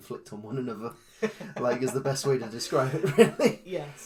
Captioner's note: laughs